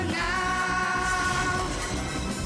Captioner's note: zapping